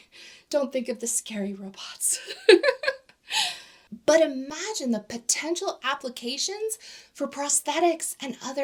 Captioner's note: giggles